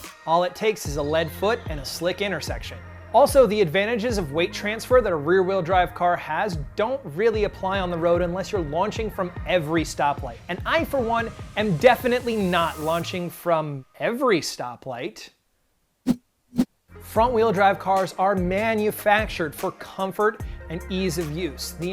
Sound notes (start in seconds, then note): 16.5 whooshing